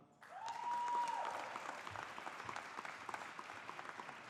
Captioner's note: audience applauding